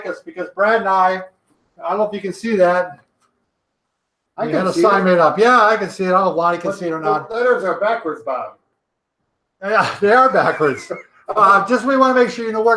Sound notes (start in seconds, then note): 9.7 chuckles